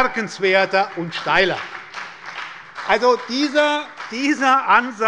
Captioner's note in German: Beifall bei der SPD